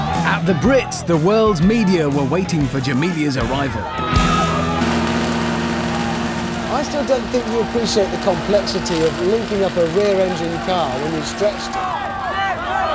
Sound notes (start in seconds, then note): 4.6 engine grinding